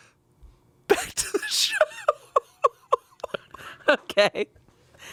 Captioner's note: laughs